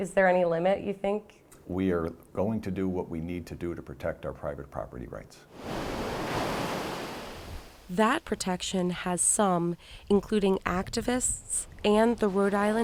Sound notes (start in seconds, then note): 5.5 water rambling